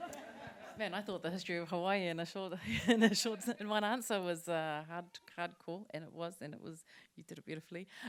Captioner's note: laughter; laughter